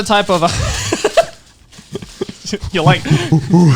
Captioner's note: laughing